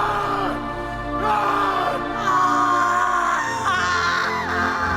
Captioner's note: dramatic music; both screaming